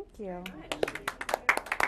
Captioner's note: applause